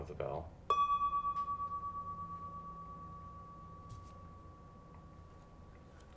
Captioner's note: bell chimes gently ringing